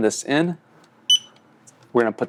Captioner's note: beep